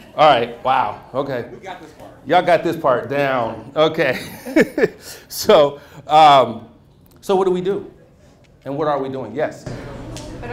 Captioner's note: laughs